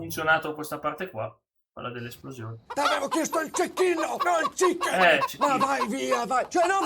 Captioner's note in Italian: risate